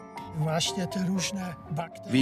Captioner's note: speaks Polish